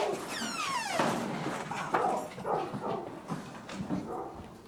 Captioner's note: door hinges squeaking